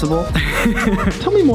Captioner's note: laughs